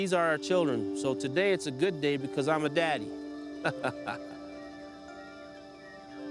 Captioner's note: laughing; soft instrumental music